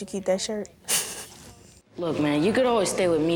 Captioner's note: laughs